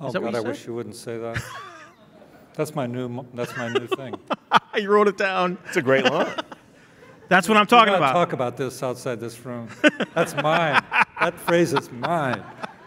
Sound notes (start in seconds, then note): 3.4 laughing